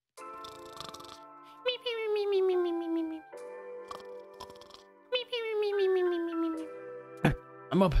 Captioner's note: snoring